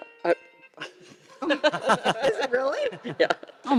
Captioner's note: panelists laughing